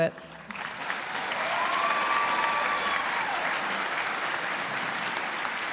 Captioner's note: audience cheering & applauding